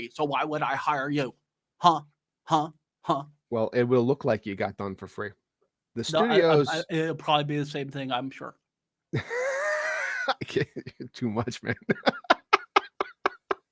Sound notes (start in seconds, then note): 11.4 cackles